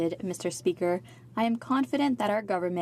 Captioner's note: speaking french